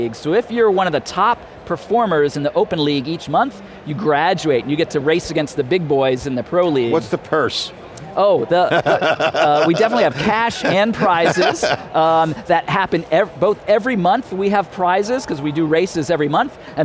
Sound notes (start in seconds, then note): 8.6 laughing